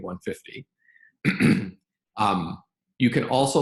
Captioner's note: clears throat